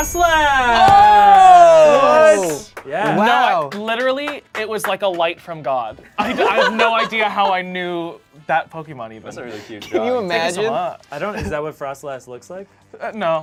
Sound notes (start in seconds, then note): 0.7 cheers; 2.7 overlapping chattering